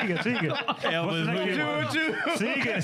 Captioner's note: laughing